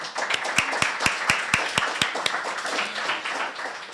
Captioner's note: applause